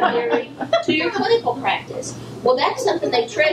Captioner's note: laughter from audience